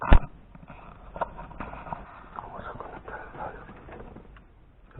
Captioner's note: whispering